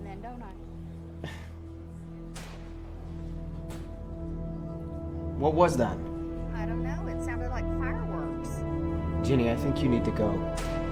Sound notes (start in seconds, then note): 2.2 distant popping; 10.7 popping